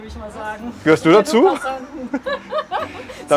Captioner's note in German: Lachen